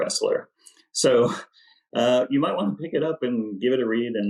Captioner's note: laughs